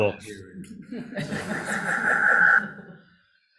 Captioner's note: chuckling